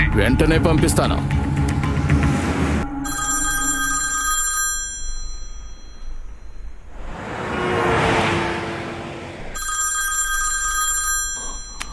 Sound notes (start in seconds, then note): 3.0 mobile ringing; 6.8 background: Train Passing; 9.5 mobile ringing